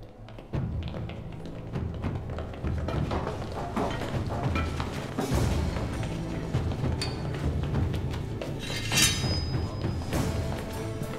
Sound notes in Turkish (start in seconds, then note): 0.0 Ayak sesleri; 8.6 Kılıç çekme sesi; 10.3 Müzik - Gerilim